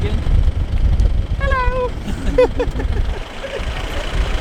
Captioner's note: high pitched voice